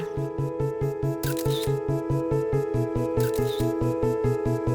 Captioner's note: camera clicking